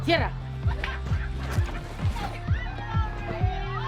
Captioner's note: laughter and shouts of joy